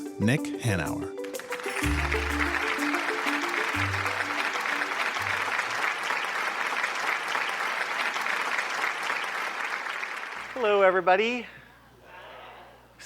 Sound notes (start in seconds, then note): 3.8 audience clapping